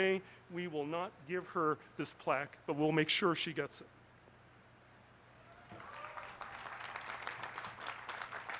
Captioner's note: applause